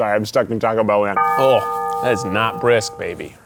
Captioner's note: ominous church bell rings